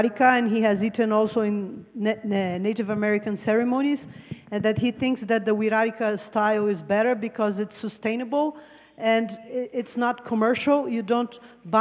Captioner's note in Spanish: Traductora habla en inglés